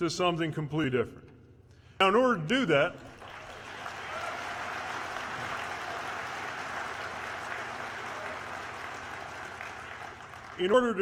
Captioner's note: applause